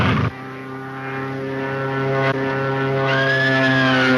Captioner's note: plane engine revs; Mary screams